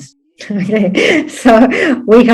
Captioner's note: laughs